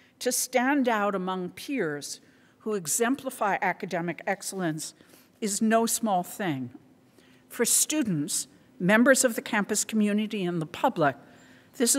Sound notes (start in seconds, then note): none